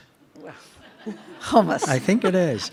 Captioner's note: participants laugh